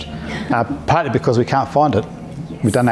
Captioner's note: laughs